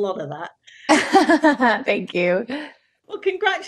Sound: Hailee laughing

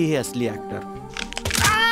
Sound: crack

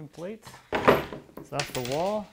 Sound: wood thumping

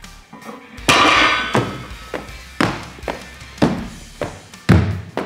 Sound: metal clanking; feet thudding

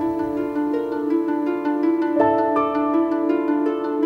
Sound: none

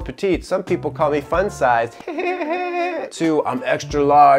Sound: laughs

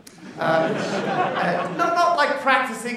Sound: laughter

